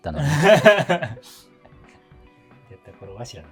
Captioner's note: laughing